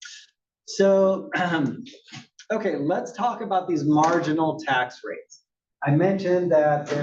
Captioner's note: cough